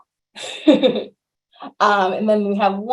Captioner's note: laughs